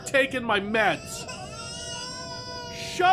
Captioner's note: baby cries